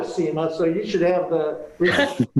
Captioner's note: panelists laugh